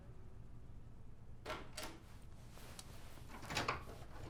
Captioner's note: door opens